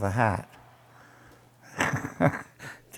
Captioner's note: laughter